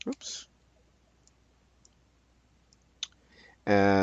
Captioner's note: mouse clicking